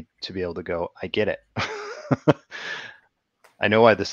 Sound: laughs

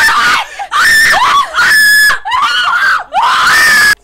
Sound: collective screams

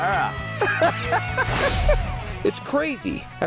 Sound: laughs

